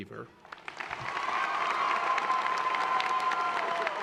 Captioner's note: applause